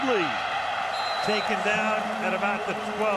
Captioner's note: whistle blows